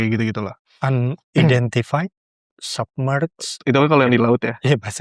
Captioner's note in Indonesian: berdehem